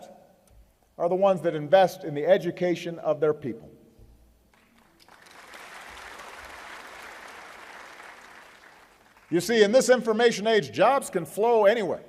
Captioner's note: applause